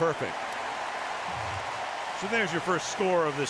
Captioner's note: cheering